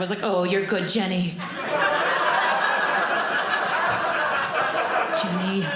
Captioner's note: audience laughing